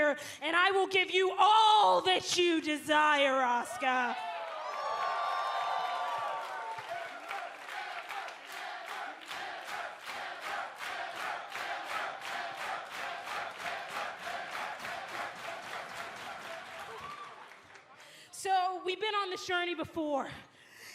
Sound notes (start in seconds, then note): 5.5 cheers and applause; 12.0 fans chanting